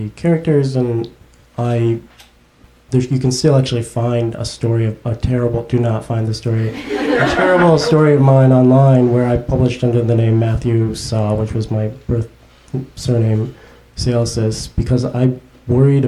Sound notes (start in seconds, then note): 6.6 audience laughs